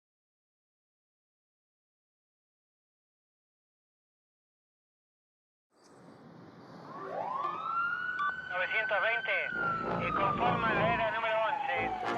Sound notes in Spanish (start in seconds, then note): 6.6 sirena; 7.8 hombre, por transmisor; 9.8 música de apertura